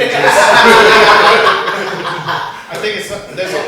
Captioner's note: laughter